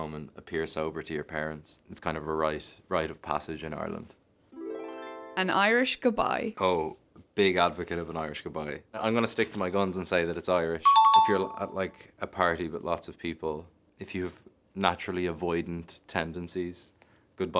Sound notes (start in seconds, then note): 4.6 chiming music; 10.8 chime dings